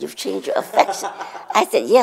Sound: laughs

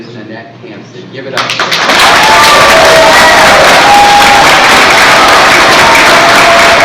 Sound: cheers and applause

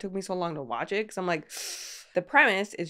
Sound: inhales sharply

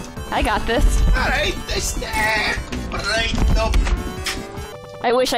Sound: In Mayro voice, moving away from the mic

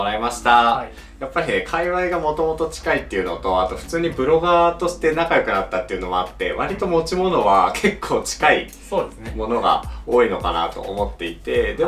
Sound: laughs

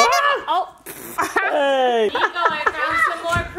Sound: laughs

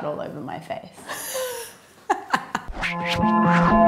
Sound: laughing; ambient music

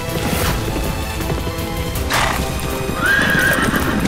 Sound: horse neighing

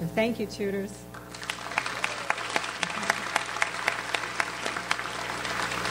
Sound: audience applauds

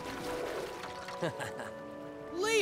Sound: chuckling

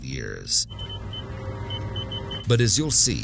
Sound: radar beeping

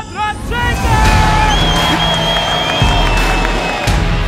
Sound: crowd cheering; upbeat rock music

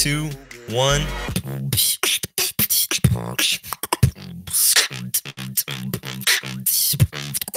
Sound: beatboxing; beatboxing intensifies

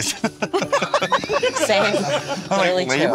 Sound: group laughs; laughs

